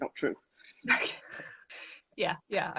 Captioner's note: laughs